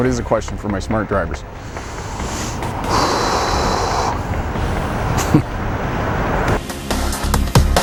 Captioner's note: deep inhalation